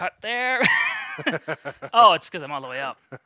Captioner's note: both laugh